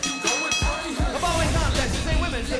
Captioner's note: bell ringing